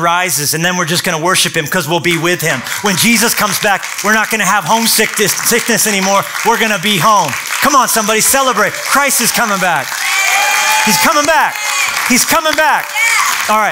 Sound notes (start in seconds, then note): 9.9 applause